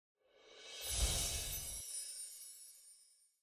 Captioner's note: bells chime